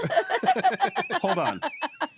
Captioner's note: laughing